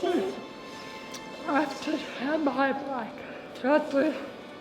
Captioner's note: talking